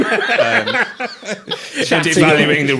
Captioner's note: all laughing